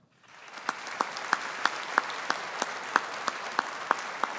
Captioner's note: audience applauding